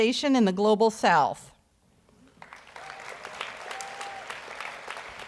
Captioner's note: audience applauds